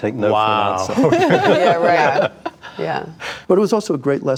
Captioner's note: group chuckles